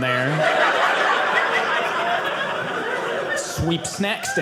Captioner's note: audience laughing